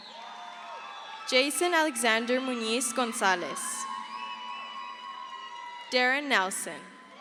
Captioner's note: crowd cheers; crowd cheers